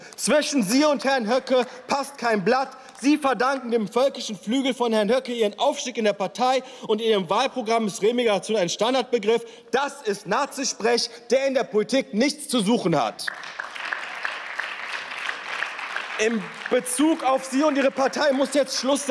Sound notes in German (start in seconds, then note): 13.2 Beifall